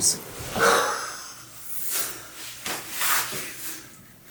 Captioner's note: laughs